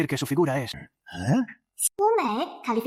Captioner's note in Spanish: Suspiro